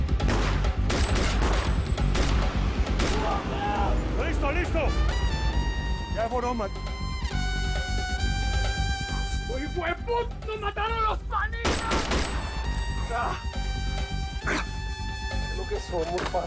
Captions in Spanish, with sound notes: [Disparos] [Gritos] - !LISTO, LISTO! YA SE FUERON ESOS M---. - !ESOS HIJUEP--- NOS MATARON A LOS PANITAS! [Disparos]